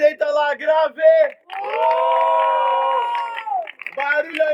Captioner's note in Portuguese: Plateia: palmas e assovios